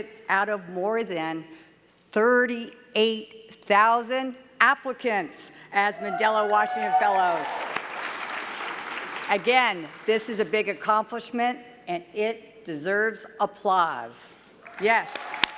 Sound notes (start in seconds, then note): 6.7 clapping